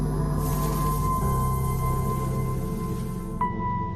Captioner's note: sizzles; laser hum; sizzle